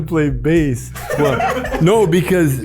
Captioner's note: group laughs